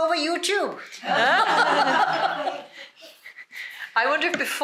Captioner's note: laughter